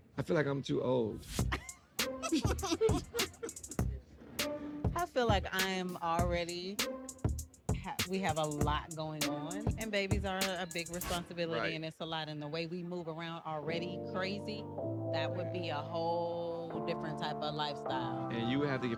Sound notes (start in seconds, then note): 2.2 both laughing